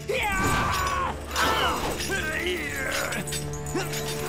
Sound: screaming; grunting

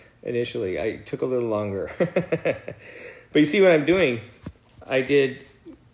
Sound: laugh

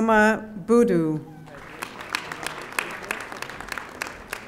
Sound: audience applauding

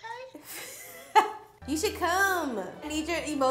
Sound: laughs

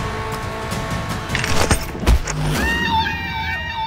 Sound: metal clacking

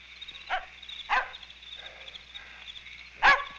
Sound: dog barking

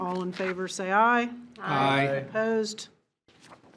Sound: in Unison

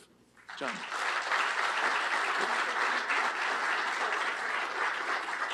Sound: applause

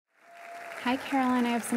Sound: applause

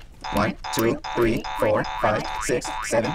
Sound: boing sound

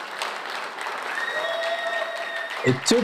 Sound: audience cheers

